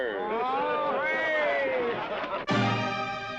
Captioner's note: men cheer